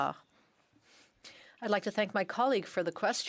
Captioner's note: speaking French